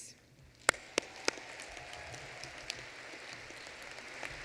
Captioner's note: applause